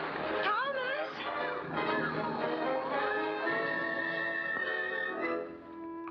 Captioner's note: triumphant music; water rushing; triumphant music; water rushing